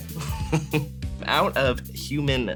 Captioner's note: laughs